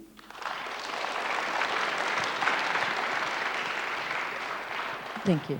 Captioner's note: audience applauds